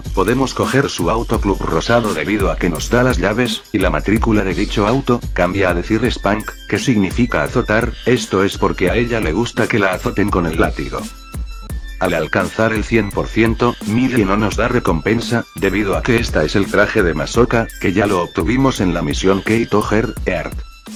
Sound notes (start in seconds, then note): 7.5 in spanish